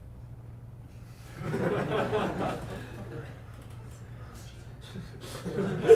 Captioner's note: audience laughing